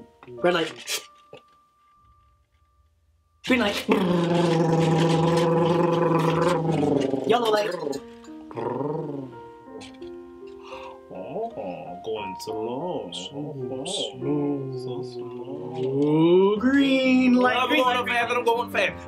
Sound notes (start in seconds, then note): 3.6 rhythmically vocalizing; 8.3 Mr. Root slows vocalizing